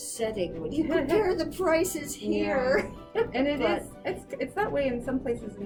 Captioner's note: laughs